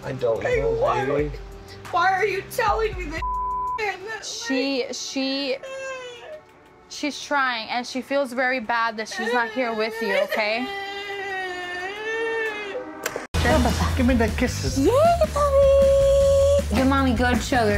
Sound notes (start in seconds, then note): 3.2 beep; 5.4 crying